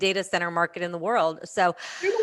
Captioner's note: laughter